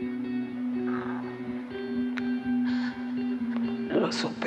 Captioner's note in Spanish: sollozos